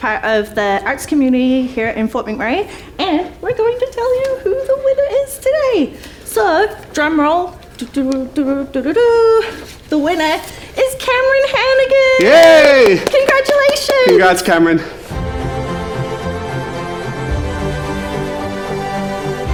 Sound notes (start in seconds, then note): 7.8 hums; 12.2 both cheering; 15.0 uptempo dramatic music